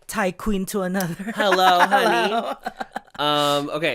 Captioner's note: giggles